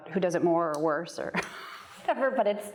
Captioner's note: chuckles